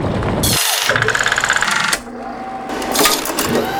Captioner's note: machinery whirring